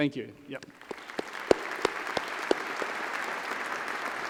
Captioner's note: applause